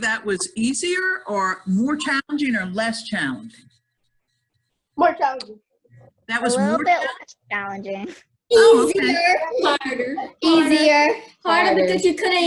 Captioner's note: children Chatter